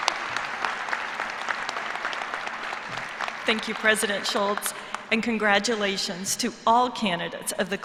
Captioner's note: cheers and applause